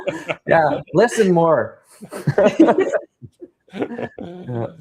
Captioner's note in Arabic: ضحك